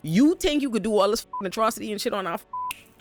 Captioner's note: beep